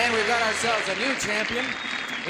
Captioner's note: applause